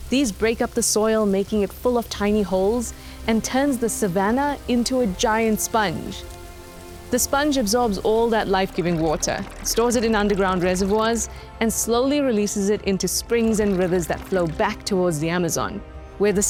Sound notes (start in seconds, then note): 6.3 rain showers